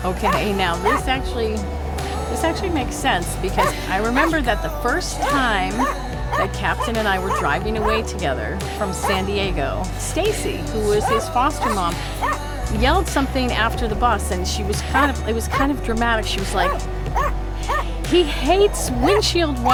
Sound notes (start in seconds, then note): 10.8 Captain starts barking